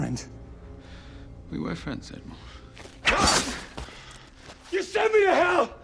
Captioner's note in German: schreit